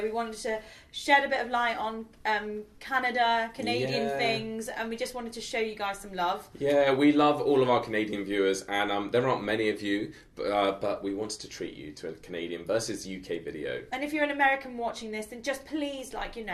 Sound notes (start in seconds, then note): none